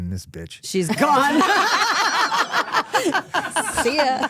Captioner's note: laughing